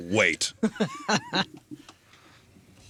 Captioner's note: laughing